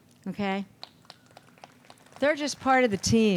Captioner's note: audience applauds